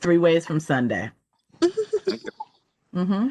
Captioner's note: laughter